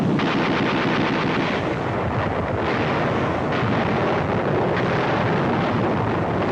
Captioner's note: sounds of artillery, shelling, gunfire